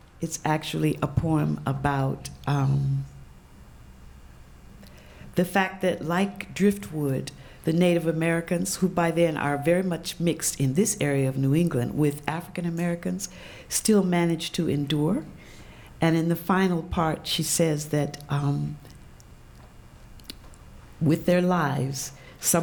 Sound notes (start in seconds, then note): none